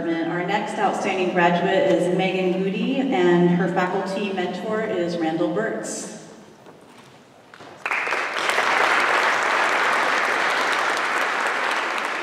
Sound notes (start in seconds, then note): 5.9 applause